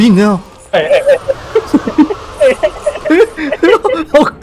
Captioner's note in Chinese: 哈哈